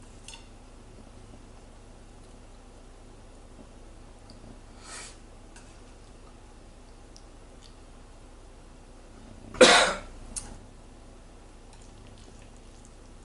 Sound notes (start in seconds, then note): 9.6 cough